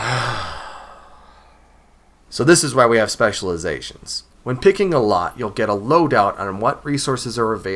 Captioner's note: sigh